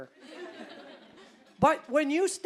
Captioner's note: audience laughing